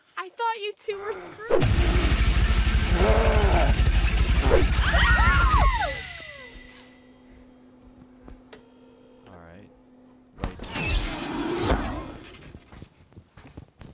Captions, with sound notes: I thought you two were screwing- (grunting) (heavy metal music) (screaming) - All right, right hand. (magical buzz pop)